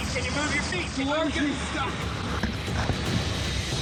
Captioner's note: water rushing